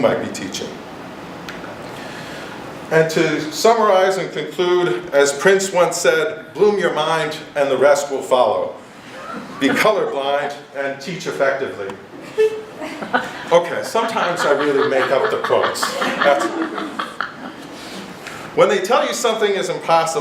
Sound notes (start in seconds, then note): 9.1 giggles; 16.6 laughter